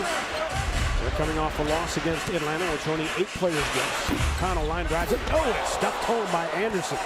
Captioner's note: crowd noise